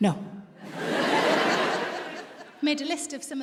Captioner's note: audience laughs